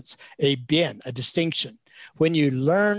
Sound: speaks in Chinese

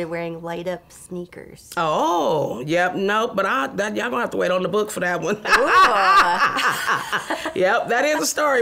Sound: laughs

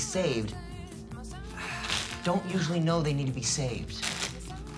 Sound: sighs

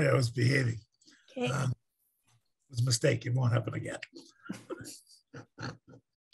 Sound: laughs

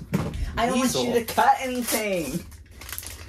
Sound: mocking

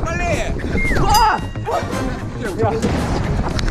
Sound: scream

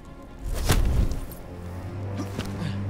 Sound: arrow whooshes and thuds

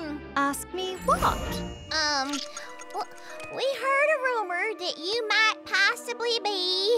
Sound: none

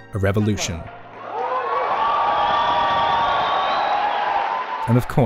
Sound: crowd cheers

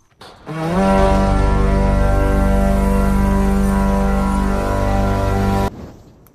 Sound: gjallar horn sound

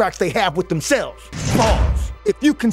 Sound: bars slamming

